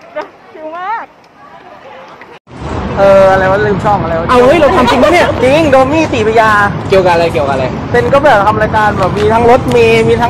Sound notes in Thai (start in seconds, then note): 4.5 เสียงหัวเราะ